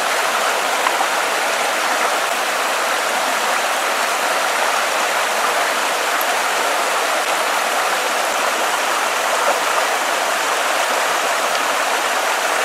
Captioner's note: rushing water